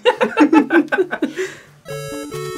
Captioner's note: both laugh